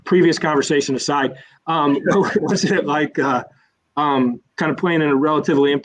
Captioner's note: laughter